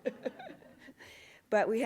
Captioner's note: laughs